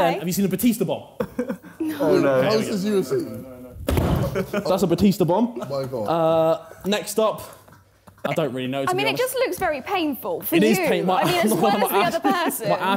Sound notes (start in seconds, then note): 3.9 chair bangs